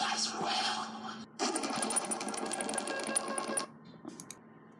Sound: beeping

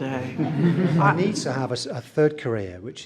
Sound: everyone laughs

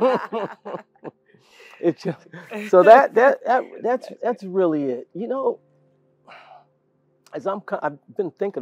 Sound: laugh

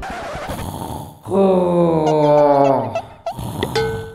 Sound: Ultraman Dyna is snoring; Ultraman Dyna is snoring

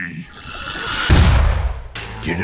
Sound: explosion

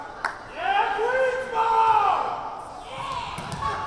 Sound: referee yelling

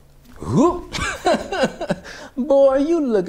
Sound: laughing

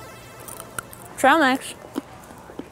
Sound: crunches

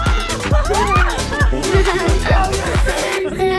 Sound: giggling

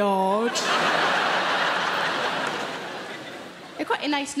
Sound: audience laughing

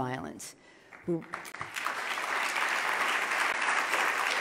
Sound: loud clapping

